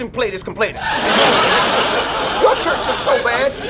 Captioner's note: audience laughs